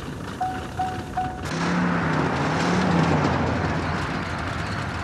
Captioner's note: indicator beeping